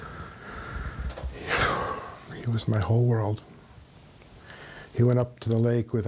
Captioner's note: sighing